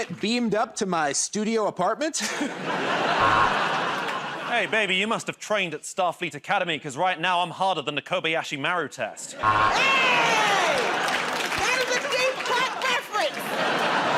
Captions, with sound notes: -You want to get beamed up to my studio apartment? [ Laughter ] [ Buzzer ] -Hey, baby, you must've trained at Starfleet Academy because, right now, I'm harder than the Kobayashi Maru test. [ Laughter and applause ] [ Buzzer ] -Aye! That is a deep cut reference.